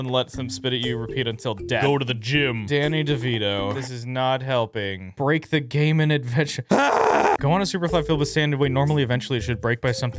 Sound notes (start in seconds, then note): 6.7 screams